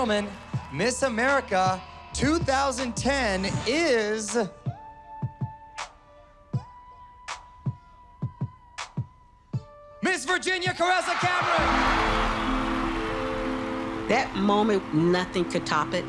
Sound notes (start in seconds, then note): 4.8 dramatic upbeat music; 10.8 crowd cheering